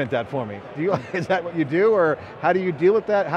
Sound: laughs

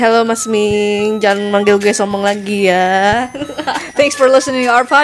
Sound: laughs

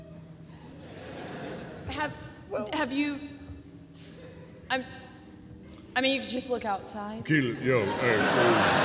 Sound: stammers

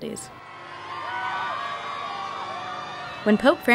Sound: crowd cheering

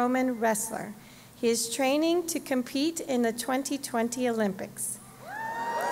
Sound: applause

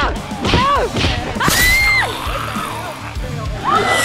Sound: screams

